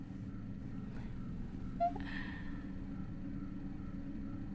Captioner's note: Lucy chuckles